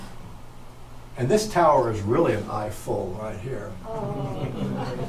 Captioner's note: audience moans and chuckles